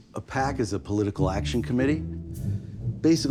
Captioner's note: none